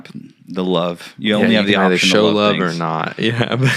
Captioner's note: laughing